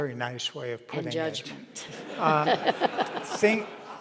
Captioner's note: audience laughs